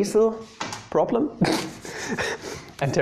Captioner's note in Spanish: ppppffffffffffffffffffffffffff